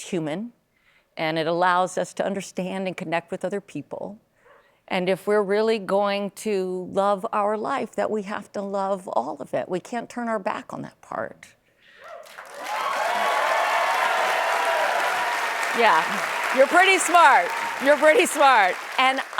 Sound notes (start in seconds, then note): 12.0 applause